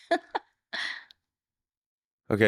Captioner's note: laughing